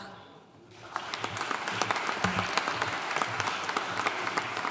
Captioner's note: audience applauding